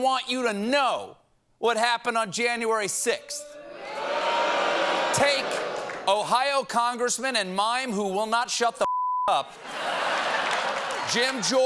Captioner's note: audience booing